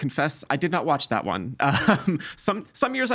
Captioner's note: laughing